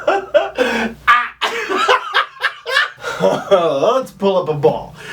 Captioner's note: laughter